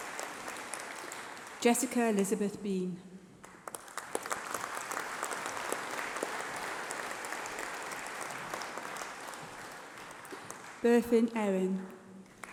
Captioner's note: applause